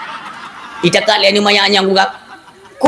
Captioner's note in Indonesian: tertawa